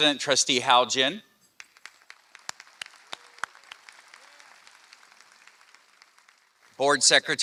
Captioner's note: applause